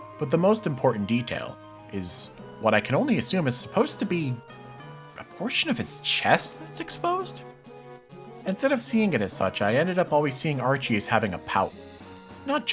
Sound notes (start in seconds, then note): none